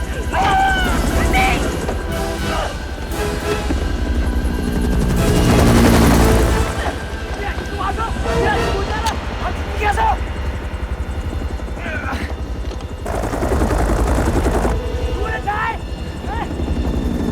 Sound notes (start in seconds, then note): 0.3 Chrissie Yells; 6.8 Kang Shouting In Korean; 10.9 grunts